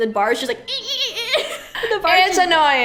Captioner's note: squeaky-squeaky-squeaky